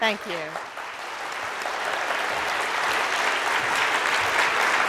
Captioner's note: audience applauds